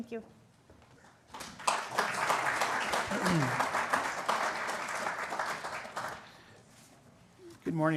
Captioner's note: applause